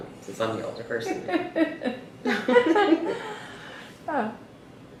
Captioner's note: laughter